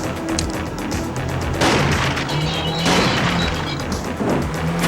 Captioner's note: bang bang